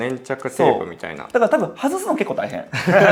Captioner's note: laughs